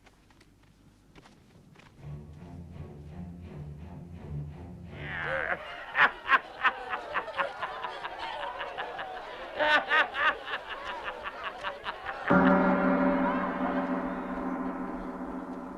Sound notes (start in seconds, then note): 2.1 dramatic music; 12.2 gong rings